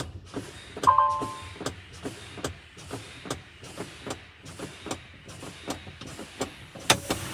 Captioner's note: brake pumping; beeping